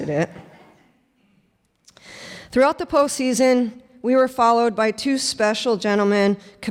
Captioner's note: laughter